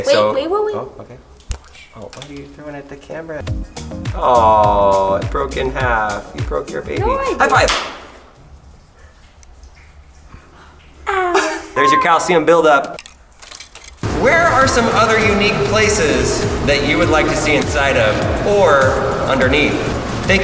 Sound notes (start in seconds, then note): 7.7 loud smack; 13.1 stalactites cracking